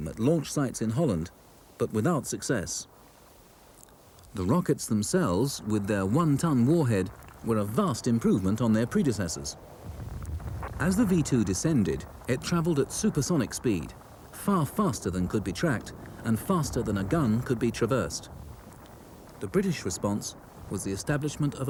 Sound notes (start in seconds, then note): 10.0 rocket rumbles